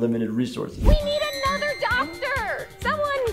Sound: female voice

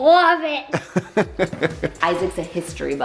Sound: laughing

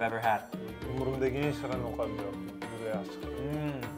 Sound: foreign language

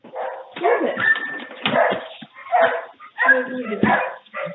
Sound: dog barking

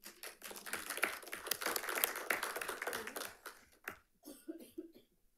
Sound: audience applauding

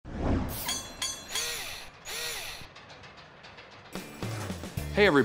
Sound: mechanical SFX

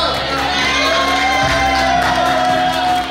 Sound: cheering & Clapping

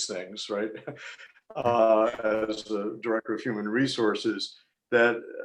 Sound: laughter

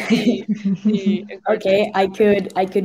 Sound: students laugh

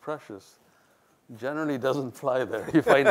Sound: laughs

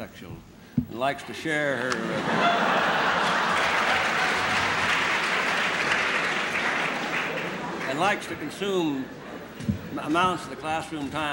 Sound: laughter; applause

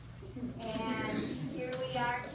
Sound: audience laughs

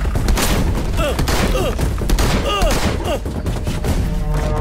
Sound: gunshot

